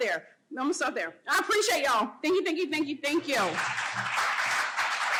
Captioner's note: applause